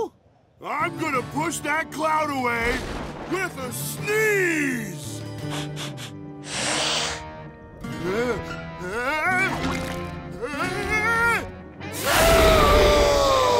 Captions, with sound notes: I'm going to push that cloud away, with a sneeze! [sniffing] Ah, ah, ah choo!